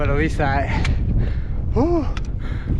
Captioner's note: winded